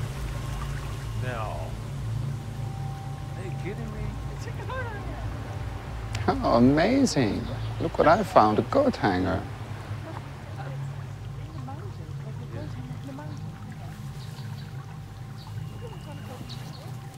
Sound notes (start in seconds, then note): 10.7 indistinct chatter